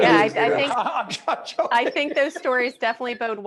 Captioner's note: laughing